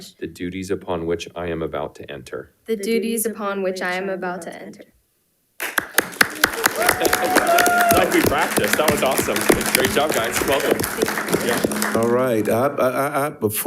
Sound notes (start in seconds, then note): 5.6 everyone applauding; 6.0 attendees cheering; 7.4 speaks faintly